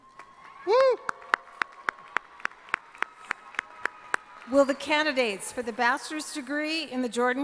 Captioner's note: applause